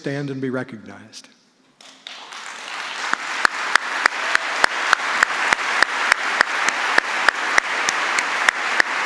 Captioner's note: applause